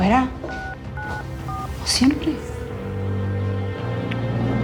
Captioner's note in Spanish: Sonido al marcar